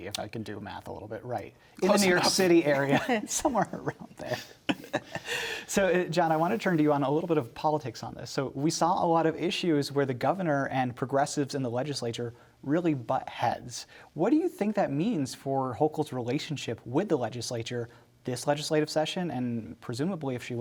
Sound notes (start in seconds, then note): 5.0 laughs